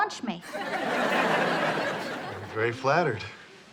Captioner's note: audience laughs